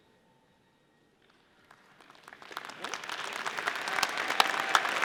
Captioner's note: audience applauding